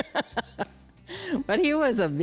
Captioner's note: laughs